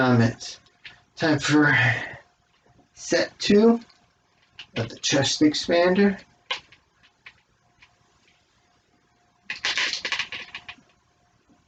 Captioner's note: clanking of chest expander ropes